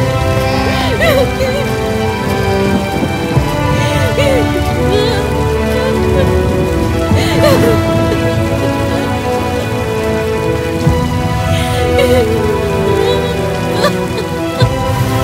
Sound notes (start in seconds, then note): 0.6 Kamala weeping